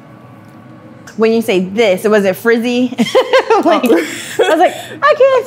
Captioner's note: laughs